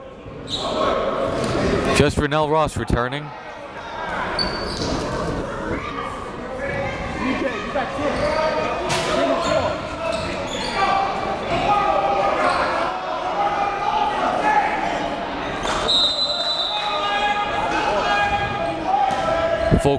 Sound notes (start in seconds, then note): 6.8 players and coaches yelling; 15.8 whistle blows